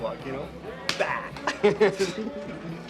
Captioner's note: laughs